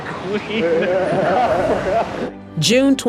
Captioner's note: both laughing